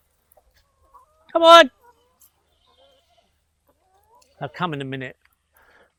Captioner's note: goats bleating